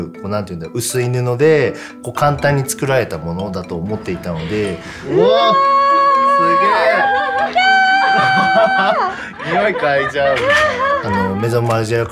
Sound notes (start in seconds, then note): 5.0 excited shouting; 8.8 laughing